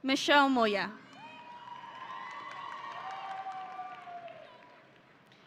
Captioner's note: audience cheering